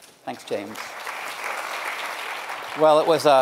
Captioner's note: audience applauding